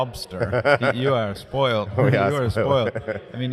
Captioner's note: laughs